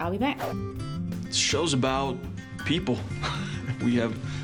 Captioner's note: chuckles